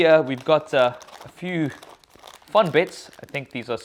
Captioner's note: cracker bag crackling